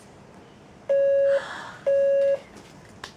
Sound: beep beep

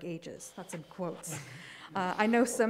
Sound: participants chuckling

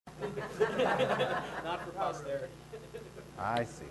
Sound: audience laughing

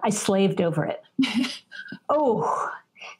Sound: chuckles

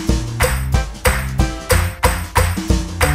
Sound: clap

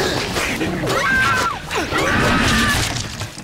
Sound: cheesy stock scream

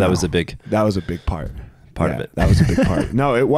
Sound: chuckles

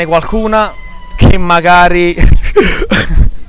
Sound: screams

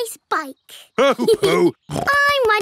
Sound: laughing; snorts

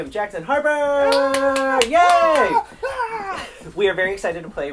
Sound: clapping and cheering

